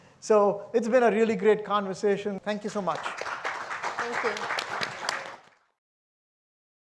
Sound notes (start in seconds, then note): 2.6 audience applauds